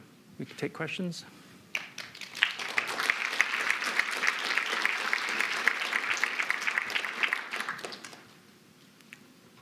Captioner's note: applause